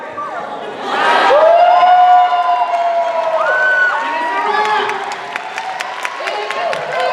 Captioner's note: cheers and applause